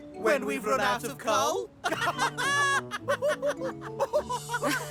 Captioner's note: laughter